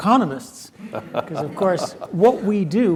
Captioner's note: laugh